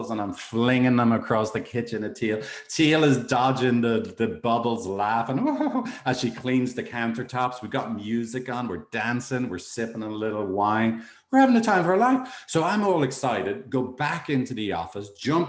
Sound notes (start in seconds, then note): 5.2 chuckles